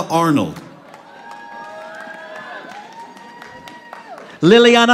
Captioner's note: audience applauding